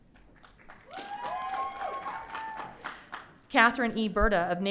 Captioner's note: audience cheering